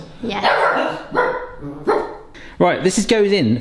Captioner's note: dogs barking